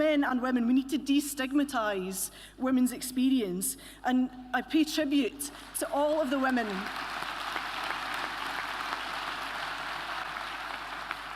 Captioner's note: applause